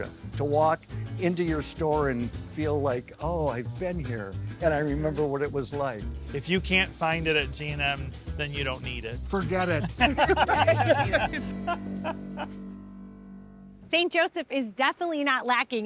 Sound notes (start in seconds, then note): 9.5 laughs